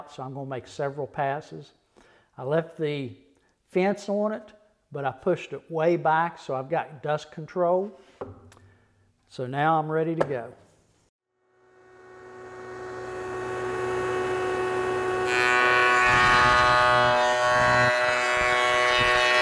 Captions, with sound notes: so I'm gonna make several passes. I left the fence on it, but I pushed it way back, so I've got dust control. So now I'm ready to go. (machine operating)